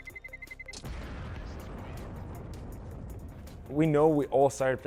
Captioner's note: explosion